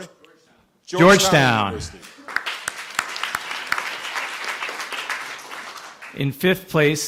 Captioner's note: applause